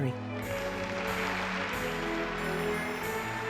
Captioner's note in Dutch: applaus